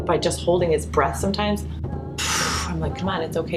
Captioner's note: breaths out deeply